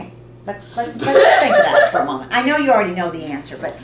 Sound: laughter

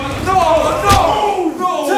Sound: loud smack

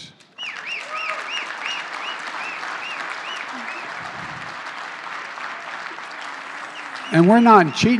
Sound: applause

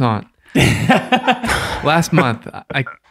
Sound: all laughing

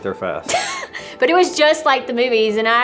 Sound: laughs

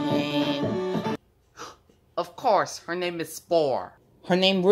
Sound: gasps

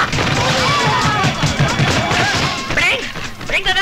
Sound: knocking

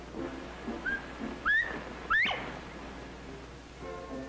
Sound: bobwhite call

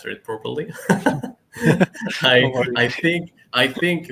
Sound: laugh

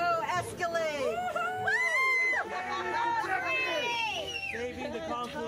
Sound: screams, celebratory laughter

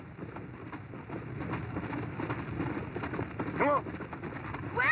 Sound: horse galloping

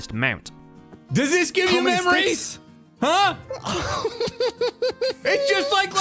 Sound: excited giggles

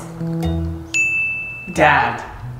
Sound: bell rings

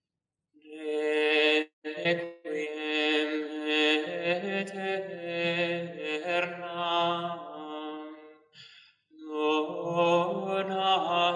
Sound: chant

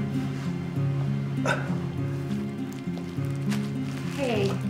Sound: soft tense music continues; Thomas grunting

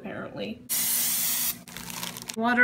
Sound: spraying; bag crinkles

